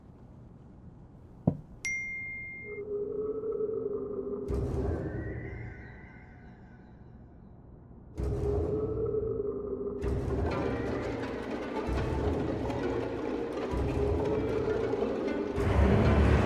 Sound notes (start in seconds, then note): 1.8 email dings; 4.5 tense string music; 10.4 string music builds